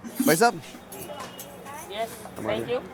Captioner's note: speaking in Hindi